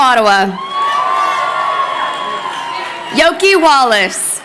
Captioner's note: crowd cheering